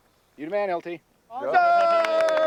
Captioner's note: men cheer